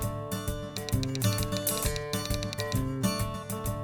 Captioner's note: typewriter sounds